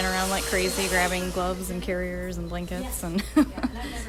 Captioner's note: laughter